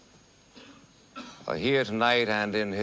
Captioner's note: coughs